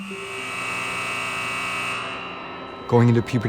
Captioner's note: buzzer sounding